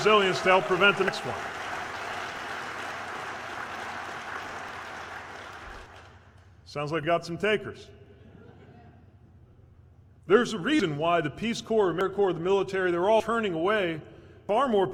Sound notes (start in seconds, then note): 4.6 cheers/applause